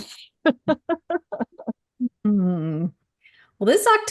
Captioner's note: laughing